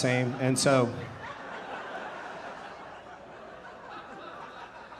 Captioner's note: audience laughing